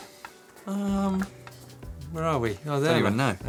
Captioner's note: thoughtful humming